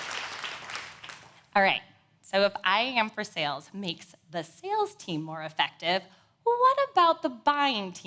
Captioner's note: applause